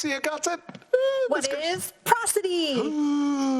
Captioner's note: screams